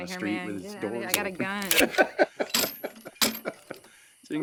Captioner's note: laughter